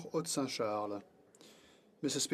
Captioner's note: speaking in French